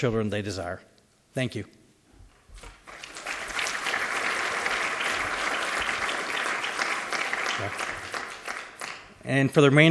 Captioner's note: applause